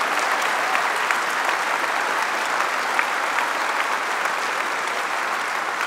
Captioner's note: applause